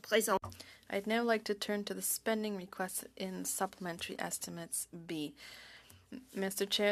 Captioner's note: speaking French